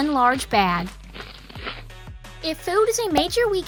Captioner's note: crunch, crunch!